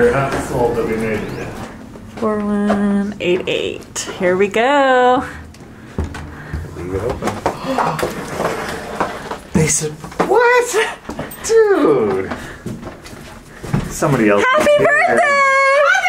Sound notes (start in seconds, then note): 7.4 gasping; 10.8 laughs